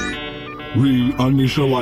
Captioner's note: booting up sounds